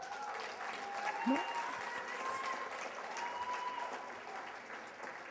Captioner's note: cheers and applause